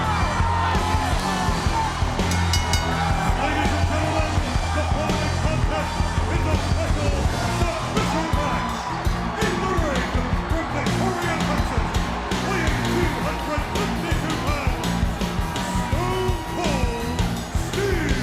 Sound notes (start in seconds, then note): 2.2 bell rings